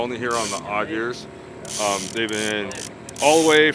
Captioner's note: reel spinning